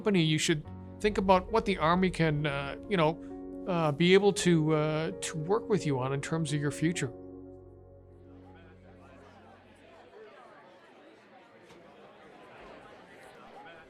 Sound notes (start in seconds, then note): 8.1 people chatter